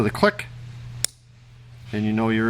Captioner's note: click